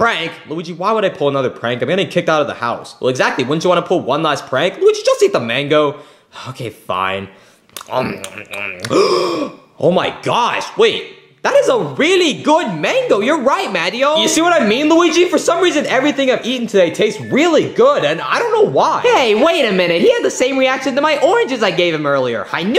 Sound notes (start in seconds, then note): 8.0 Luigi chewing; 8.8 Luigi gasps